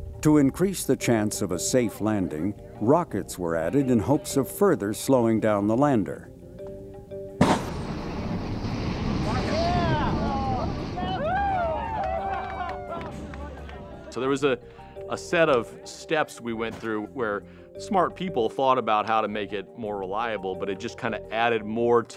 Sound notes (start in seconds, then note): 7.4 explosion; 9.2 crowd cheering